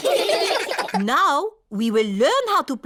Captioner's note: all giggling